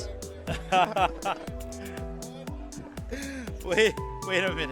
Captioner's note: laughing